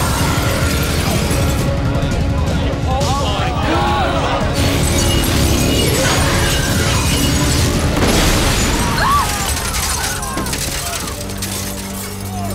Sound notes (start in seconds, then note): 8.6 screams